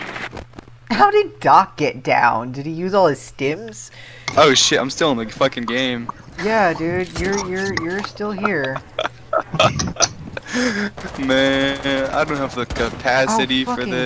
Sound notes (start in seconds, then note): 7.6 stutters